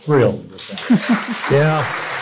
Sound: applause

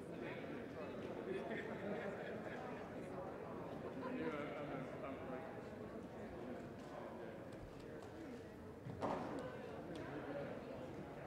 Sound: indistinct chatter

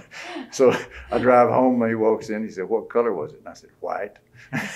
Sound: laughter

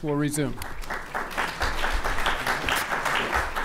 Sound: applause

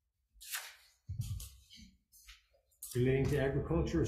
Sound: papers rustling

